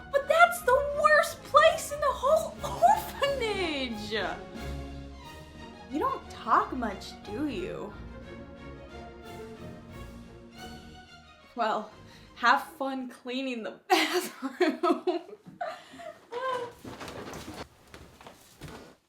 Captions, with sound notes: But that's the worst place in the whole orphanage. You don't talk much, do you? Well, have fun cleaning the bathroom. (laughs)